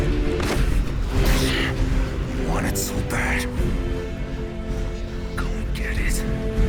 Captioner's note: grunts